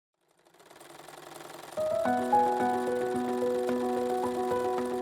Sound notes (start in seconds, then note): 0.2 sewing machine sounds